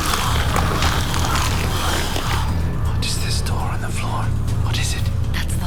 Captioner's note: growling & biting